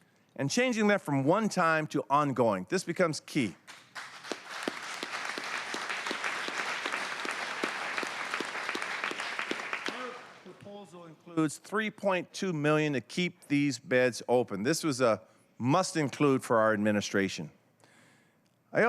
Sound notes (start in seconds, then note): 9.2 applause